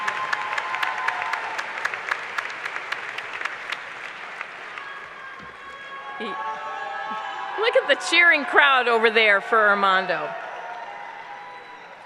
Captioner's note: applause